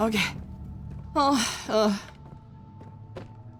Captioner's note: exasperated whine